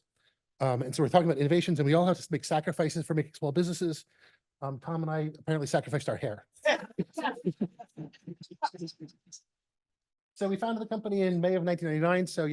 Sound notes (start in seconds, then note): 6.9 laughter